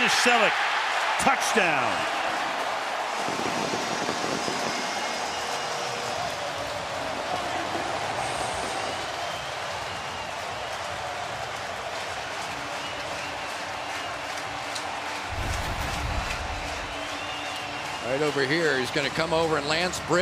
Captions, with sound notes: The open man is Celek. Touchdown. [crowd cheering] Right over here, he's going to come over